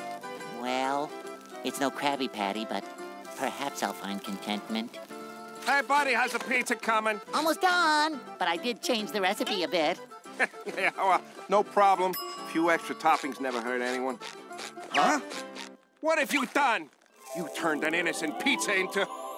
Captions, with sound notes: Well, it's no Krabby Patty, but perhaps I'll find contentment. Hey, buddy, how's the pizza coming? Almost done. But I did change the recipe a bit. [laughing] No problem. Few extra toppings never hurt anyone. Huh? What have you done? You turned an innocent pizza into...